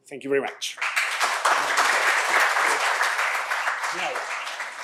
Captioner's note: applause